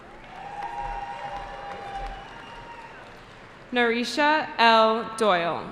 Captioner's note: cheering